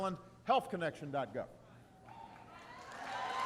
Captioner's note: applause